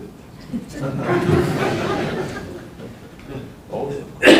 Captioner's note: audience laughing